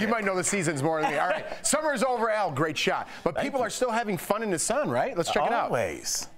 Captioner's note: laughter